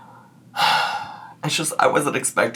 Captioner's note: exhales